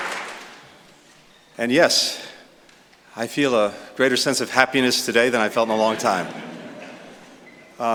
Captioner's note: laughter